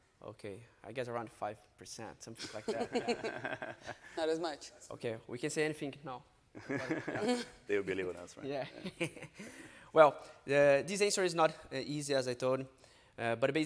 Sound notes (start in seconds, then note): 2.4 panelists laughing; 6.6 panelists laughing; 9.7 laughs